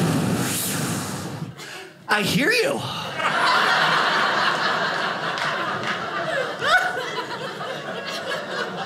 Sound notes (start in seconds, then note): 3.1 audience laughing